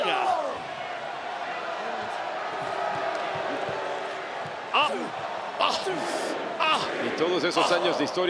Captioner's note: applause